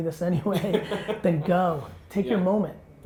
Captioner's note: laughs